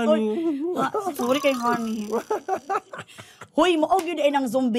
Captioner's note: chuckles